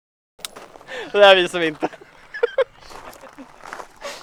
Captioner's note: laughing